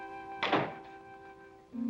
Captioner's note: door closing